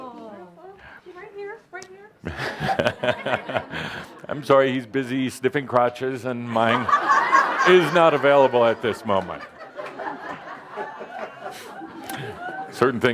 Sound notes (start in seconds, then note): 6.5 lots of laughter